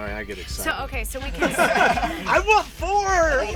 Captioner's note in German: Lachen; alle lachen